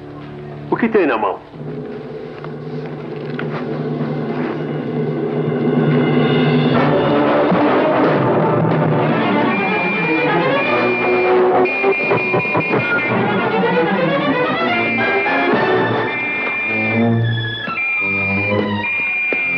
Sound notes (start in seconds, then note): 9.0 policeman Whistling